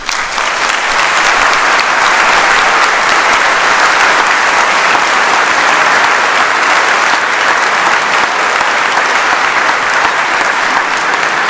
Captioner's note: applause